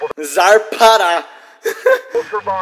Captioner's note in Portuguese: risos